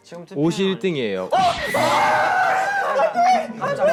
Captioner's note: screams of panic